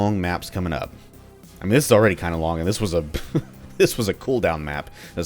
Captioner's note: chuckles